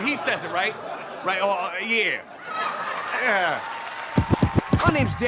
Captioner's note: audience laughs